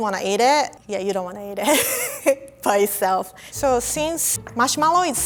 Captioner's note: laughing